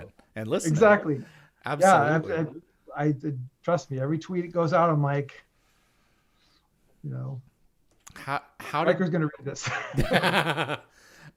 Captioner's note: nervous